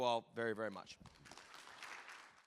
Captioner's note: audience clapping